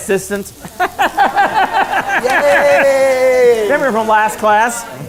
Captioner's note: laughs